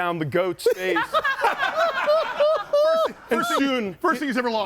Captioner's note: group laughs